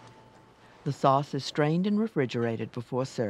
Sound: voiceover

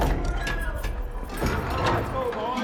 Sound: gate opening, indistinct chatter

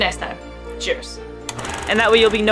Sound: film rolling sound effect

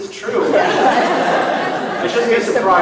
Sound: laughing

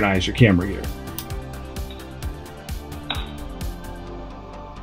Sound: screw drops

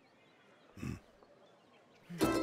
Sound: grunts

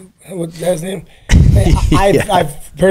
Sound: laughs

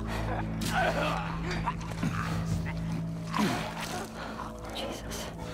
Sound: stabbing, bleeding and choking noises

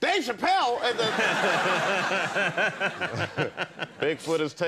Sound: Conan laughing

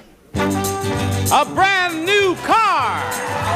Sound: audience cheers; cheerful music

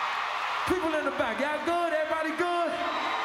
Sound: screams

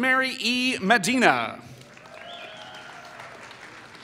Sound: applause

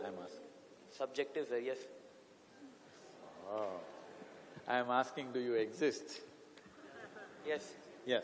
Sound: laughter

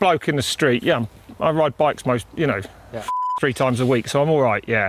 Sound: beep

